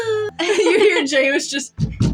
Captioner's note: both Sigh Wistfully; laugh; heavy Knock